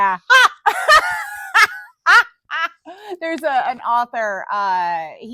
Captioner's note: laughing